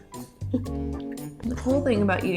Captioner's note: both chuckling